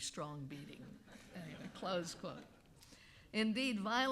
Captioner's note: audience laughing